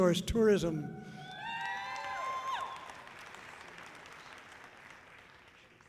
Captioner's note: audience cheering loudly